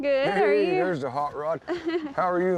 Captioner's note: laughter